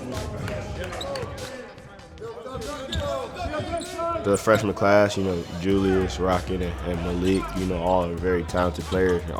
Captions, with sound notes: (shoes squeaking on gym floor) The freshman class, you know, Julius, Rocket, and Malik, you know, all are very talented players,